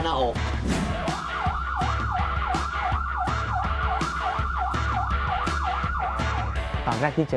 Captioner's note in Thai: เสียงเรียกวิทยุ; เสียงไซเรน